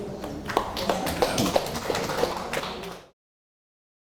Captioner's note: audience applauding